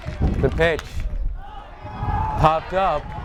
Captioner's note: bat cracks